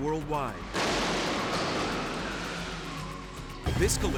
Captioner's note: vehicles thudding